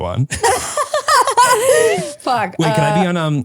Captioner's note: laugh